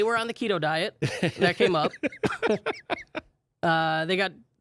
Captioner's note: laughing